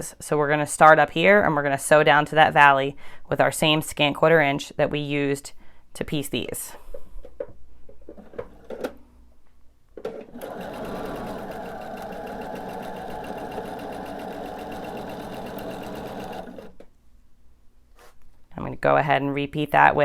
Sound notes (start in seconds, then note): 10.2 sewing machine whirring